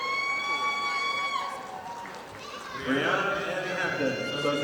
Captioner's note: audience applauding